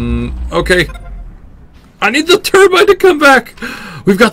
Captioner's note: gasp